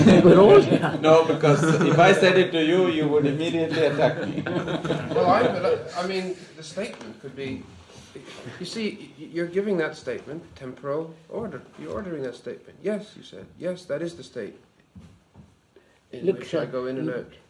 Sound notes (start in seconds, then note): 4.4 laughs; 5.4 laughter